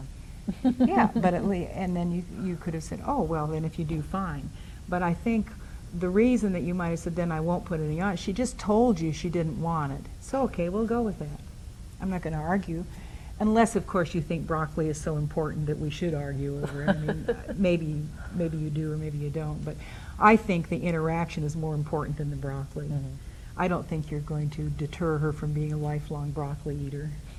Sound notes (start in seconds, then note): 16.6 laughs